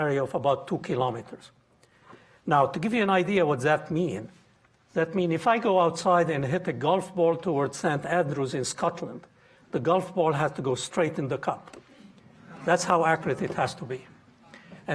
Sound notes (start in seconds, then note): none